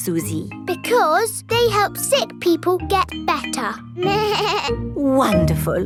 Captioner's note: bleats